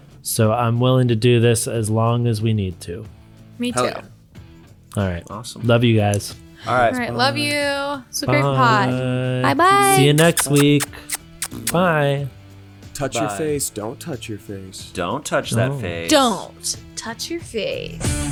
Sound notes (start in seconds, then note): 9.7 kisses smooching; 18.1 upbeat music